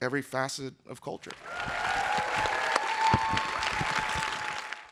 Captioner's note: audience applauding